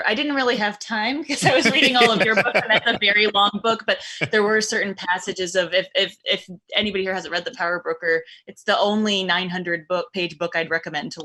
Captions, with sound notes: I didn't really have time because I was reading (laughing) all of your books and that's a very long book, but there were certain passages of, if anybody here hasn't read "The Power Broker", it's the only 900-page book I'd recommend